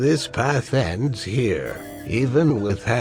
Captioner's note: 'Incorrect' sound effect